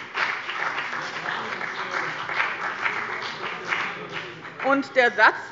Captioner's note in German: Beifall bei dem BÜNDNIS 90/DIE GRÜNEN und der CDU